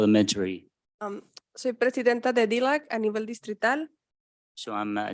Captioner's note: speaking in Spanish